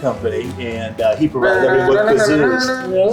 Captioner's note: vocalizes